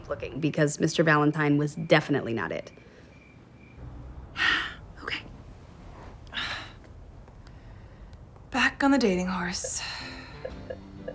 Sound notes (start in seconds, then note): 4.2 big sigh